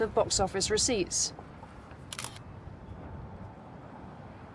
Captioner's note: camera clicks